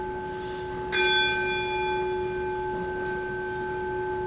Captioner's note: third bell rings